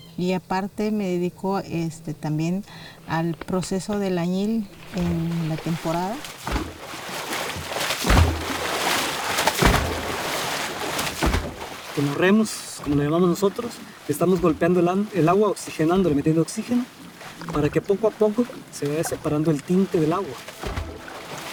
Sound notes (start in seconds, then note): 6.6 water sloshing